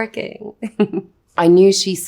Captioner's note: Anya laughs